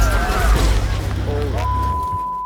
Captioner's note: crowd screams